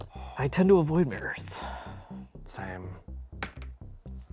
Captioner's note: sighs; gentle tense music continues